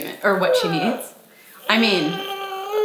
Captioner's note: vocalizing